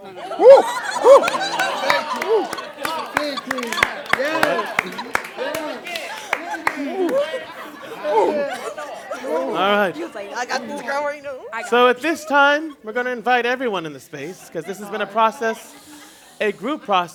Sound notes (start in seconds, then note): 2.0 laughter and chatter